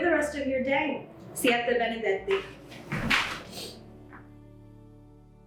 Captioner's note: speaking Italian